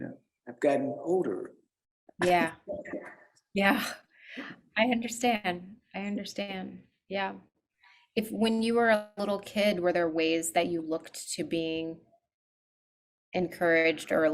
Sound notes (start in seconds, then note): 2.3 laughs